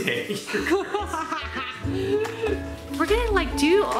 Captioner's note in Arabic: يضحك